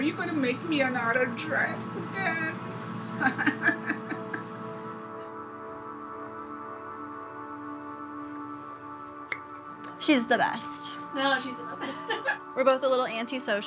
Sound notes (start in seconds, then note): 3.2 laughs; 11.8 laughs